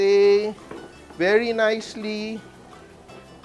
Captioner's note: sizzles